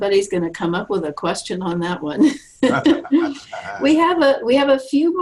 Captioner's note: laughs